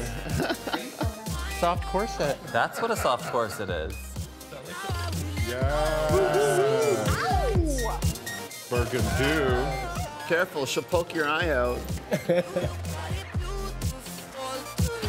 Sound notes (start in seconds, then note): 0.0 person chuckling; 5.4 group cheering; 12.0 person chuckling